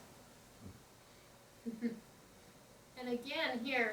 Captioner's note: chuckles